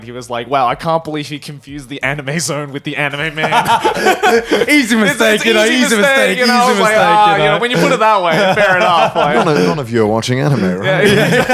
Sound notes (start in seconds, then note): 3.2 all laughing; 8.7 laughing